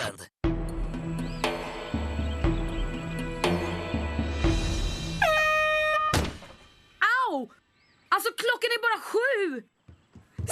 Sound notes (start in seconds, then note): 5.1 air horn blowing